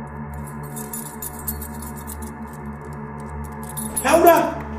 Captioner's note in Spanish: ruido de llaves